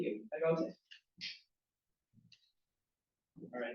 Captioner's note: non-english